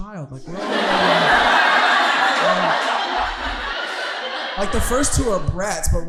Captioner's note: audience laughing